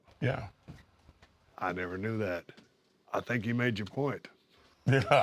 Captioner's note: laugh